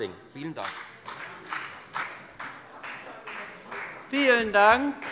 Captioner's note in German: Beifall bei der FDP